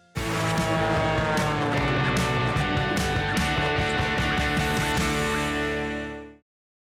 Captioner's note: energetic rock music; plane engine roars